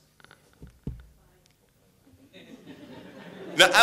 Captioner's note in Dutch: zonder klank; publiek lacht